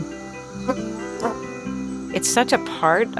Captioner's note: insects buzzing